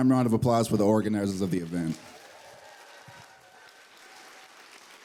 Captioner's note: applause